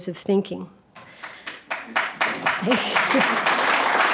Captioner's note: audience clapping